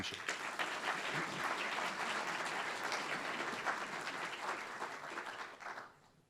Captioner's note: applause